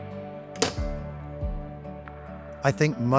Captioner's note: metal thudding